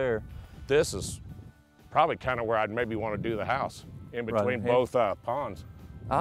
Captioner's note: none